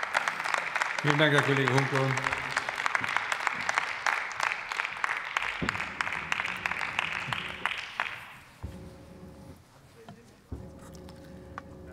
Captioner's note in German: Beifall bei der LINKEN sowie bei Abgeordneten der SPD